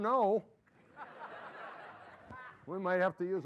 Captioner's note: laughter